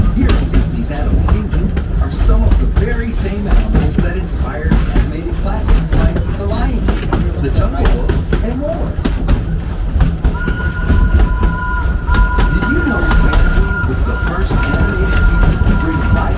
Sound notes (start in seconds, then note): 10.3 train whistle